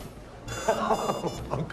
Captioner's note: laughing delightedly